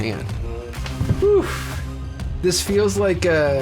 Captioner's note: person trilling lips; person exclaiming